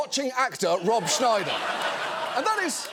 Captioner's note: audience laughing